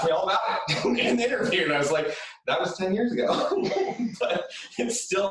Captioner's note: laughs